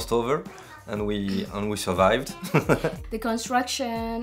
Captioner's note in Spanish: risas